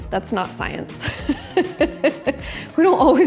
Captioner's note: laughs